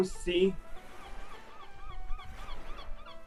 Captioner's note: gentle waves and seagulls